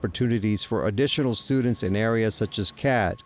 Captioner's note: signal beeping